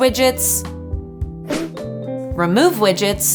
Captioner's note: screen whooshing